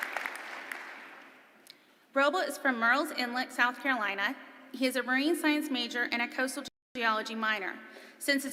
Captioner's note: applause